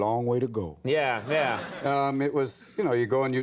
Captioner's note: audience laughs